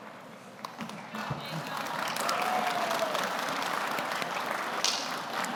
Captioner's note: audience applauds